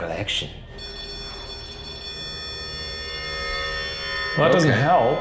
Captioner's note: REM-Pod beeping